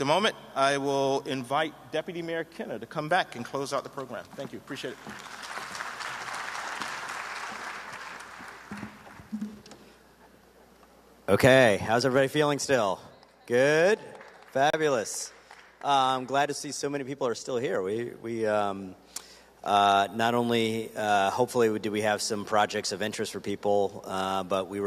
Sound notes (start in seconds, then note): 7.8 applause; 13.1 applause